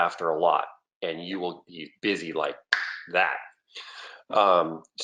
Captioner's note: snaps fingers